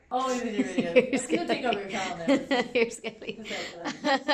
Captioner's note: laughter